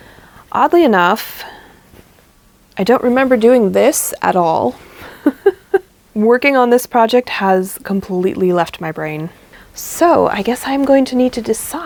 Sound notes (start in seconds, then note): 5.1 laughs